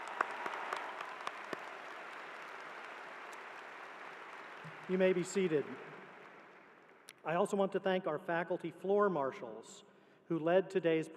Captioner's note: applause